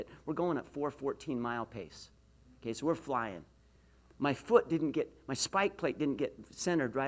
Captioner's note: none